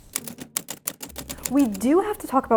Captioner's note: letters clacking